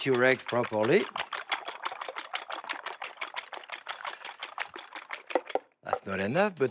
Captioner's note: whisking